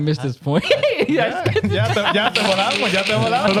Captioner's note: laughing